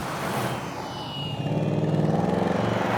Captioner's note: engine revving